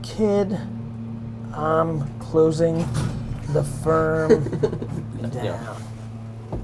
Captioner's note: laughs